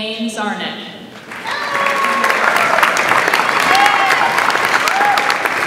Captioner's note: audience applauds